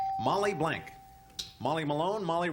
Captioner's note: ding